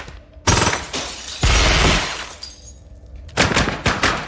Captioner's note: glass shattering; guns firing